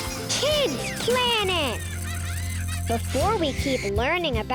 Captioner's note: animals laughing; lively music